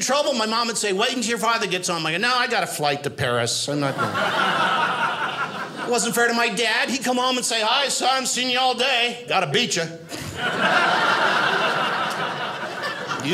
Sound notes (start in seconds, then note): 3.8 audience laughing; 10.1 audience laughing